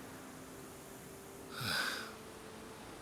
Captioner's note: sigh